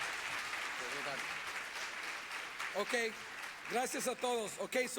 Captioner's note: applause